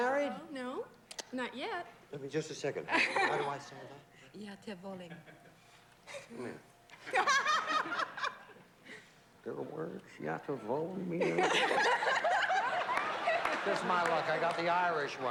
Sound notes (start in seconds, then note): 9.8 speaking yugoslav